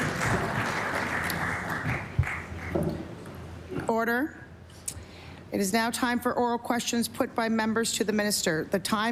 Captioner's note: applause